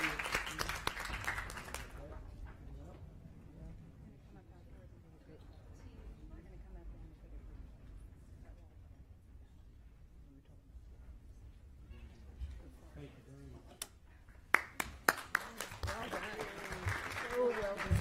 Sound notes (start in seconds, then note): 8.2 applause